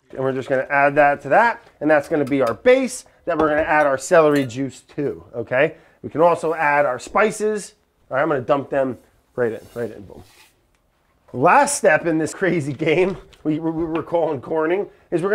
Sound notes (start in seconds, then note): 10.2 spices scratching